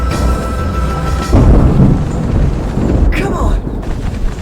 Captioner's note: thunder rumbling